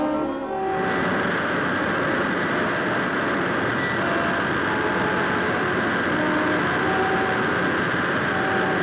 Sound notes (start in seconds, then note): 0.1 wind howling; 1.0 serious music